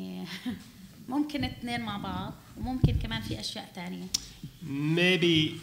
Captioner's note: speaking arabic